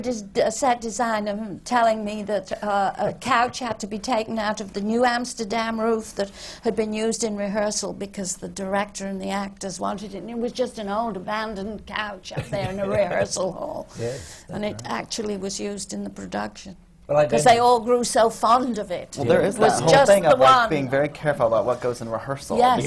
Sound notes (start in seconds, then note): 12.3 laughs